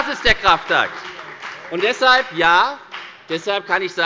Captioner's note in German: Beifall bei der FDP